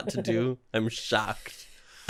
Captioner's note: chuckling